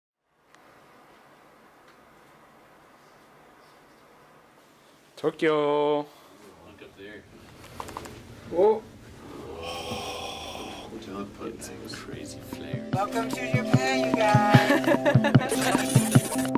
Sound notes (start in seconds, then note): 0.5 wind blowing; 14.3 passenger laughs; 14.5 bright music; 15.6 audio warbling